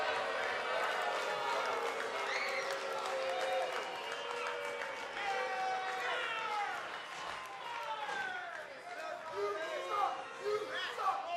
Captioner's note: cheers and boos